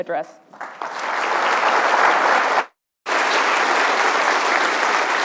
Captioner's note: audience applauding